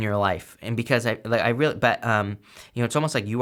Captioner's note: stammers